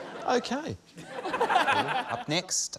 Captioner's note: laughter